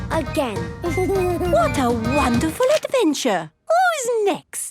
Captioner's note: Danny giggles